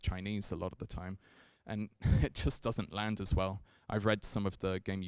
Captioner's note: chuckles